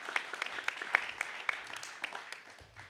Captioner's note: applause